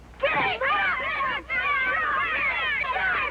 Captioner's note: all Yelling At Once